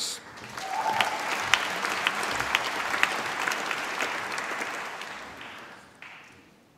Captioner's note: applause